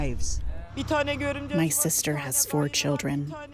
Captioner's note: through translator